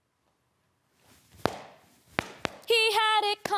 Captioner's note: silent; clap, Clap, Clap